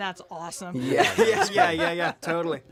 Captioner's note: laughter